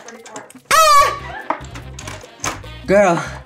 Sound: Bretman screams

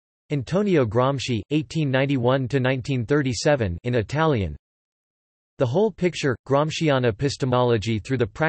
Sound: in Italian

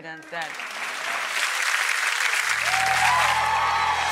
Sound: audience applauds

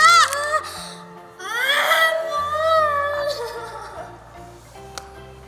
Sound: sobbing

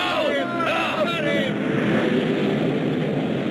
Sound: men shouting; fire whooshing

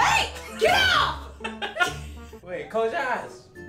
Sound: laughing

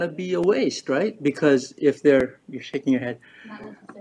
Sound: chuckles

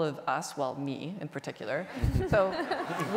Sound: audience laughter

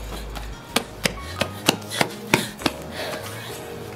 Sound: footsteps

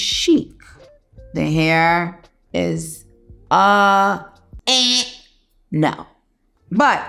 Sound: makes buzzer noise

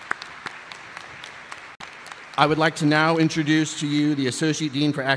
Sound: applause

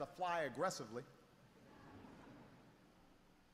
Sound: laughter

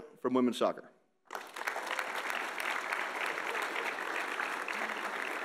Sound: audience applauding

